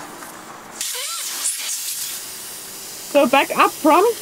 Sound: air hissing

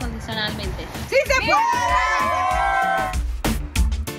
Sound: all cheering

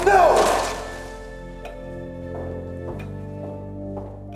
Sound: clock ticking

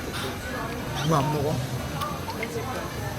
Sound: chewing

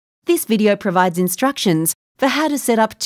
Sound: voiceover

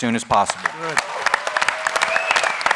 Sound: applause

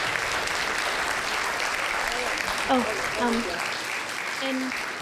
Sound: applause

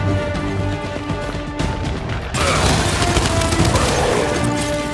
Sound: gunshots

